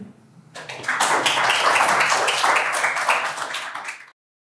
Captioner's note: applause